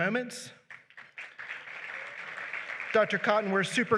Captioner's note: applause